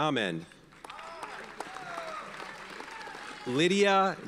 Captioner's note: audience cheers and applauds